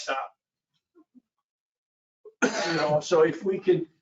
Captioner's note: coughing